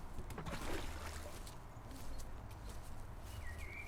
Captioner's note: water splashes